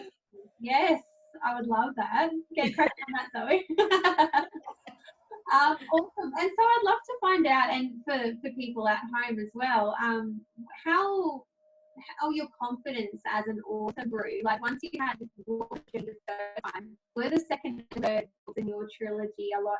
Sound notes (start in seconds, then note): 2.6 laughs